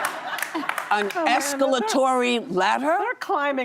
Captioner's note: laughter